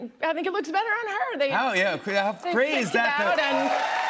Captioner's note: cheers and applause